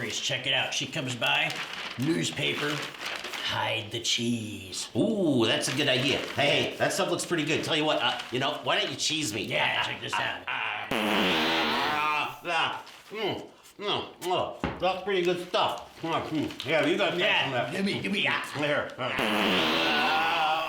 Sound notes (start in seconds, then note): 10.9 farting sound from can; 19.1 farting sound of cheese